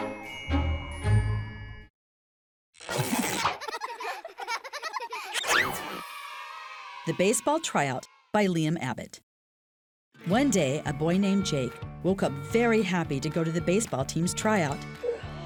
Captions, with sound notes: (children laughing) The Baseball Tryout by Liam Abbott. One day a boy named Jake woke up very happy to go to the baseball team's tryout.